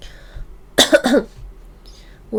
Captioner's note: cough